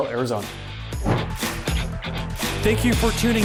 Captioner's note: whooshing